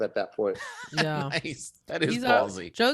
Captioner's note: laughing